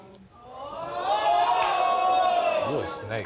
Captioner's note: audience exclaims